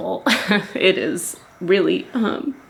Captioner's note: chuckling